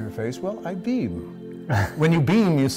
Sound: laughs

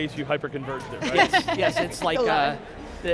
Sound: laughs

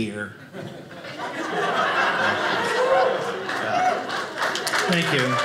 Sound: audience laughing

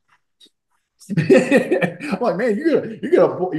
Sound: laughing

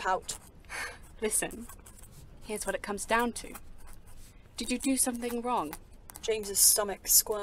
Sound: Lily sighs

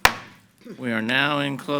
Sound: gavel bangs

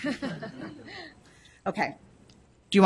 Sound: laughing

